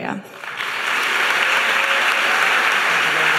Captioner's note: audience applauding